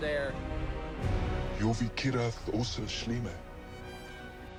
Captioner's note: speaking elven language